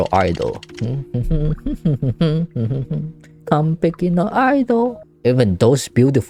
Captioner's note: humming